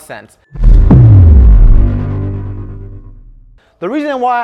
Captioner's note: whooshing